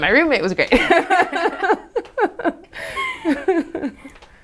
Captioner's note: both laugh